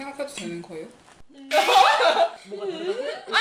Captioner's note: laughing